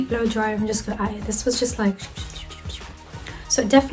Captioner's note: makes whooshing noise